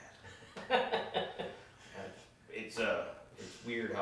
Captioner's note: laughing